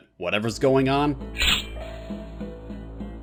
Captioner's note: shink!